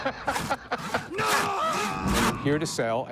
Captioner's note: laughs; screaming